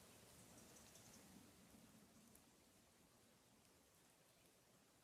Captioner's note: birds chirping